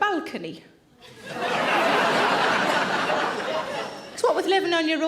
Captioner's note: audience laughing